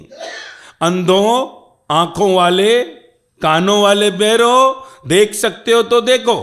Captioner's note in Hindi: गला साफ़ करने की आवाज़